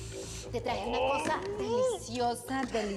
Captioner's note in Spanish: exclamaciones